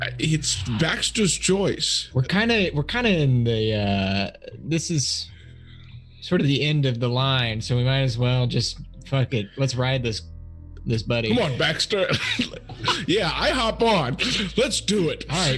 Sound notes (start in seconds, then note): 11.3 laughs